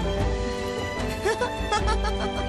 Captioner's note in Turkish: Gülüyor